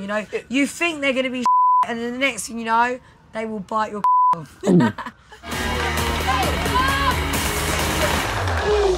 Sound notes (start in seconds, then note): 1.4 beep; 4.0 beep